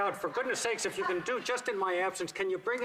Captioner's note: laughter